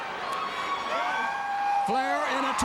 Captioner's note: Ric yelling